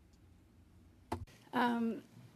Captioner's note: speaking French